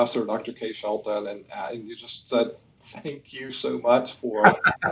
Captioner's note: laughs